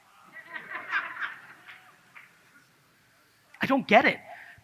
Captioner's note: audience laughs